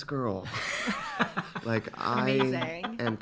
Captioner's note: laughing